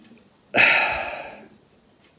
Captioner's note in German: Er seufzt